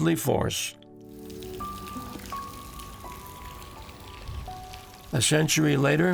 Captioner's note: falling water